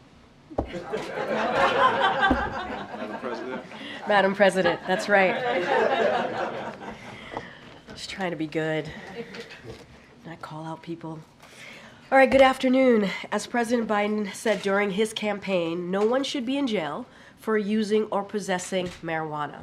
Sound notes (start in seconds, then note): 0.6 laughter